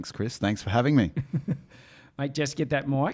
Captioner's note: laughing